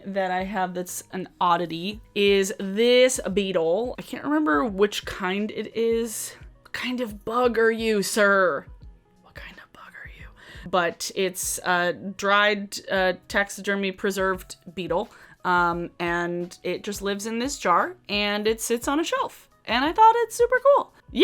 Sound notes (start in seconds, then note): 9.2 whispering